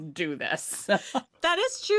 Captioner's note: chuckles